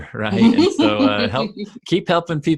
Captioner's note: laughs